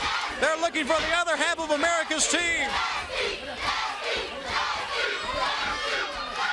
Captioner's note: crowd cheering